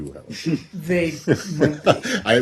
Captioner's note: laughter